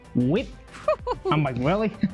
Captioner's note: laughs